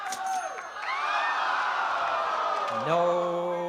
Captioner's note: crowd groaning